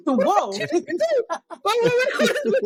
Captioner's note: laughing